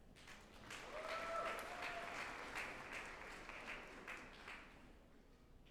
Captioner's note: group applauding and cheering